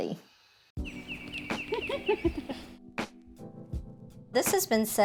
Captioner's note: birds chirping